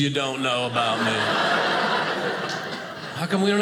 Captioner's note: audience laughing